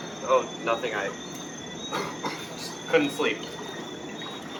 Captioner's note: coughs